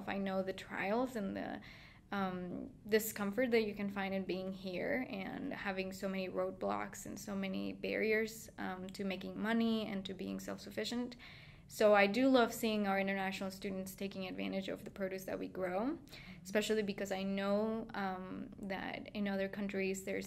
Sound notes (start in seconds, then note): none